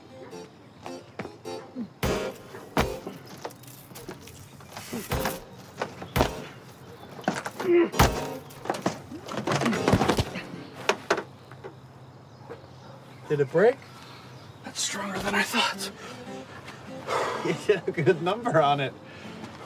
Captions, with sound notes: (light playful music) (feet stomping) Did it break? - It's stronger than I thought. - You did a good number on it.